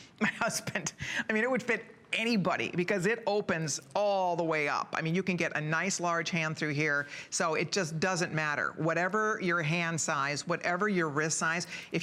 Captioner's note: laughter; laughter